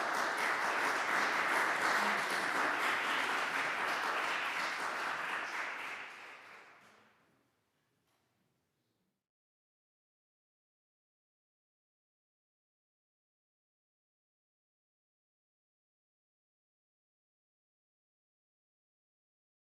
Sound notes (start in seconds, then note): 4.5 applause